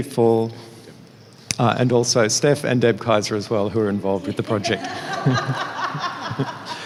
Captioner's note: laughs